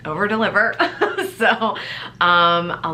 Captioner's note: laughs